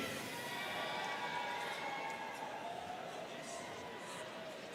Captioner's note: students cheering